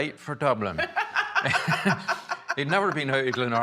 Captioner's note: laughs